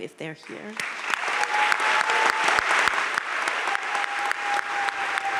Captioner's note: audience cheering and applauding